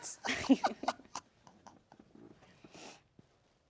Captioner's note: cackling